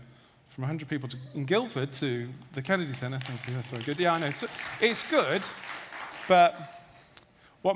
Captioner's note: audience applause